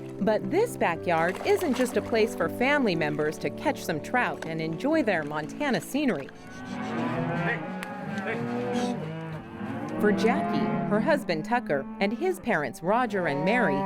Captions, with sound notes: But this backyard isn't just a place for family members to catch some trout and enjoy their Montana scenery. [Cattle rushing out of gate] For Jacquie Nelson, her husband Tucker and his parents, Roger and Mary,